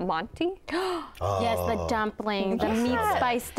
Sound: gasps

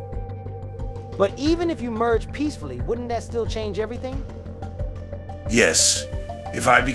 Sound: confused

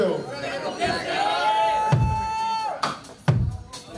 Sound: audience cheering; slow drum beat

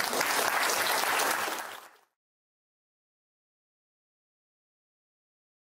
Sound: applause

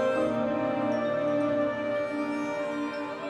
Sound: wind chimes

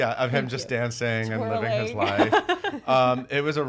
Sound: laughs

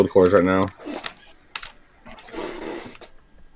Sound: chair creaking

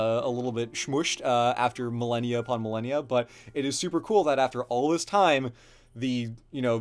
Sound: none

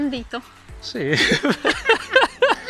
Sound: laughing

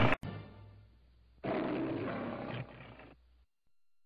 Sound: Leo the Lion roars; Leo the Lion roaring quietly; silence

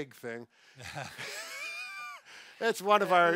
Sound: both laughing

